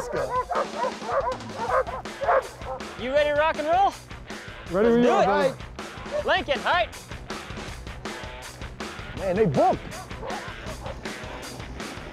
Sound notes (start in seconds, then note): 0.0 dogs bark; 6.6 calling to dogs